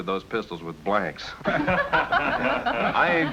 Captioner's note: laughter